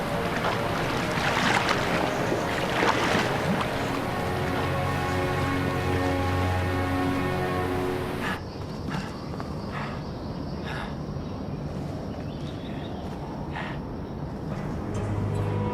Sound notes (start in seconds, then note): 8.8 gasping; 10.9 birds chirping